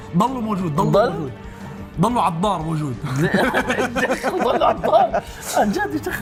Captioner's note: laughs